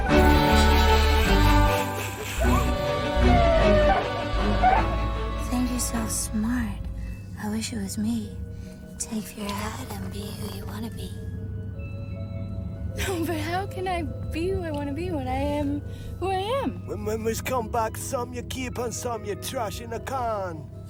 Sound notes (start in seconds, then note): 0.1 snickering; 2.9 siren chirping